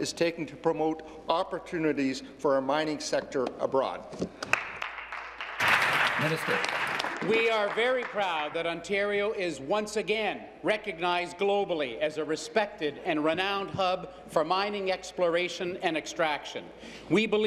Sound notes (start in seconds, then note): 9.5 applause